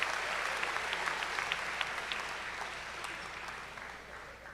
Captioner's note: cheers and applause